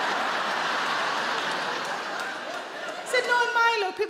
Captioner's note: audience laughs